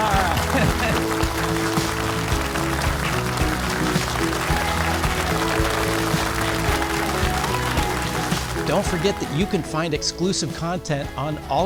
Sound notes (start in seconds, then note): 2.9 audience applauding; 6.3 inspiring music continues